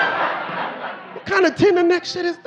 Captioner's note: audience laughing